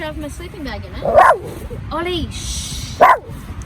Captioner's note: Ollie barks again